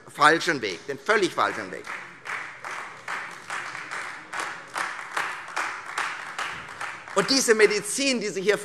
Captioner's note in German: Beifall Freie Demokraten und vereinzelt AfD